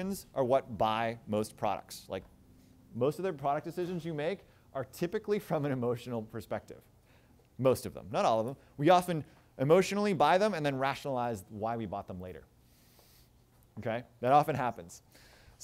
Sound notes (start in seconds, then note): none